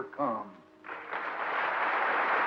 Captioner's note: applause